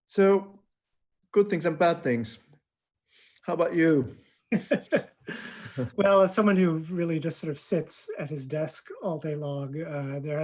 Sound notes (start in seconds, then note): 4.5 laughing